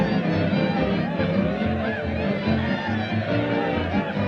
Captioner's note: crowd cheering